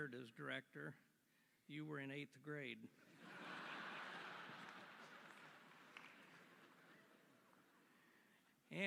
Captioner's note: laughter